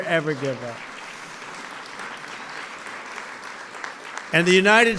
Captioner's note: applause